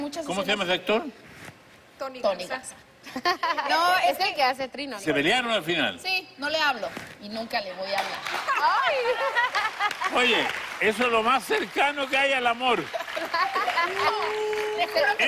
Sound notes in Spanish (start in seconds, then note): 8.4 Risas